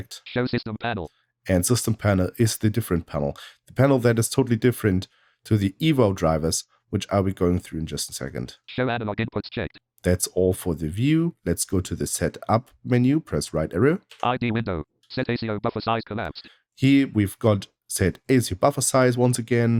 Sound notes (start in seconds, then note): 0.0 automated voice; 8.5 automated voice; 13.9 automated voice